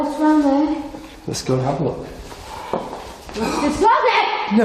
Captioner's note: breath hisses